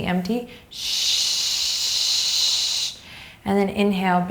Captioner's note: shushing